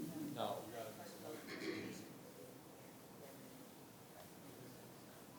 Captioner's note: board members chattering